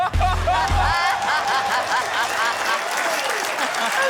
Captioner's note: laughter, cheering, applause